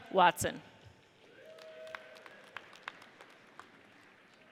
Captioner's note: audience cheers